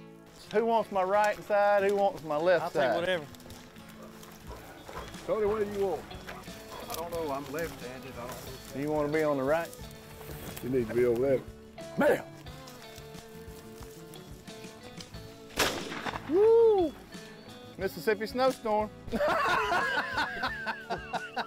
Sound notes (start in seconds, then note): 12.7 gentle guitar music; 15.5 gun fires; 19.1 laughs